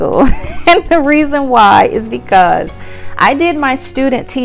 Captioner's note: laughs